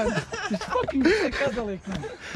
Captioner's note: laughing